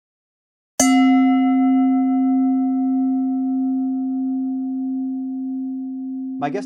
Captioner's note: bell chimes